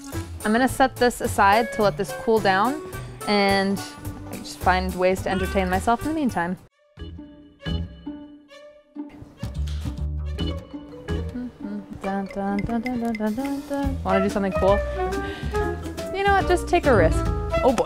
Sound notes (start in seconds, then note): 10.6 cheerful music; 11.0 humming